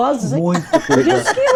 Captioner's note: laughter